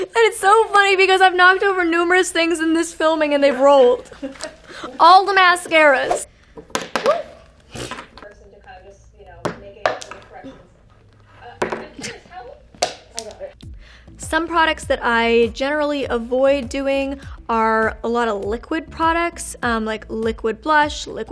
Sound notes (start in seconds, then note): 3.4 women laughing; 9.4 makeup clattering